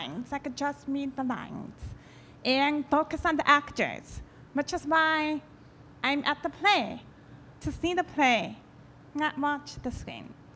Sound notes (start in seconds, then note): none